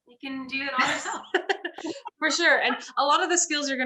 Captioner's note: chuckles